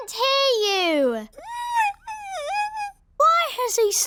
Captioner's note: squeaks